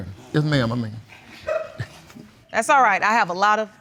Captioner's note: audience chuckles